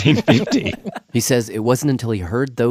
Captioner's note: laughs